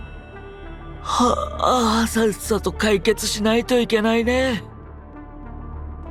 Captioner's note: yawns